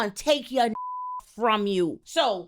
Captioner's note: beep